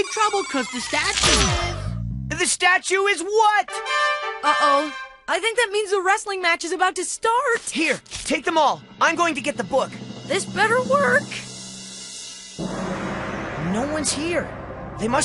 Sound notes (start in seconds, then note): 3.7 horns